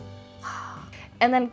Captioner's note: "ah's" in amazement